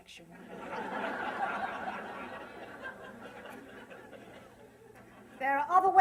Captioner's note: laughter